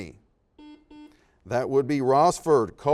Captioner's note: series of beeps